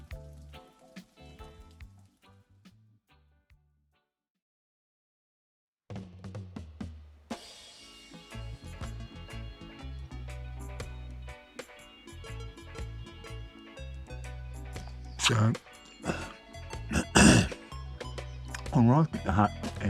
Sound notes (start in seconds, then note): 7.4 reggae music; 16.9 clears throat